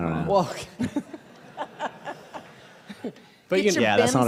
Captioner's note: laughing